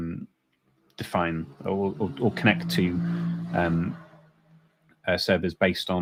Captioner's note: motorcycle passing